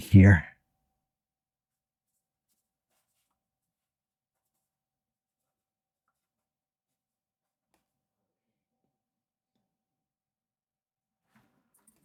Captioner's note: silence